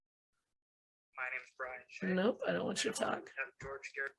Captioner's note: computer playing video